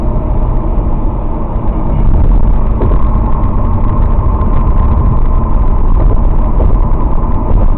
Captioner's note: audio partially breaks